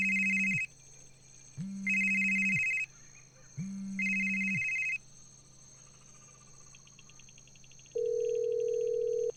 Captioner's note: phone ringing